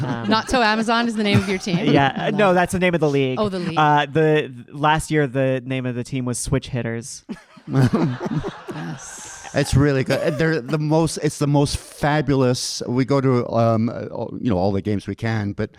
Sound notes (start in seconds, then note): 7.4 audience laughing